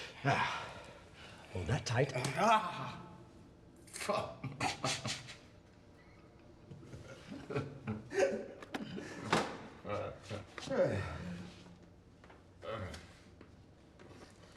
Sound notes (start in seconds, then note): 4.0 laughs